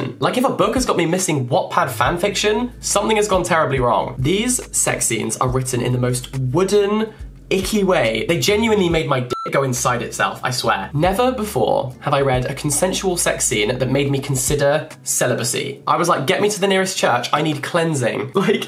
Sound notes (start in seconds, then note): 9.3 beep